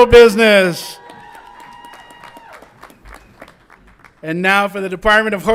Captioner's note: audience applauds and cheers